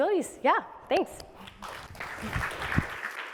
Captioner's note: applause